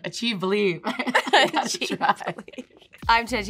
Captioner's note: laughing